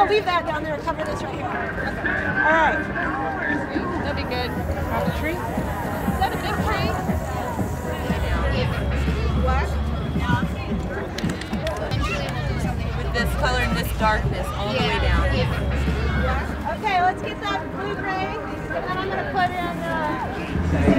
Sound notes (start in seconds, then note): 6.0 painting discussion in background